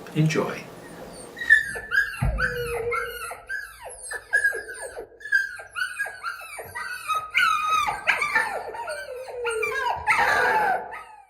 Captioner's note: puppies whining